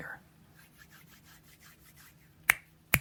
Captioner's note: hands rubbing; snap, snap, snap